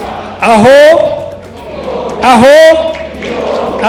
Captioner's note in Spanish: habla en kinyarwanda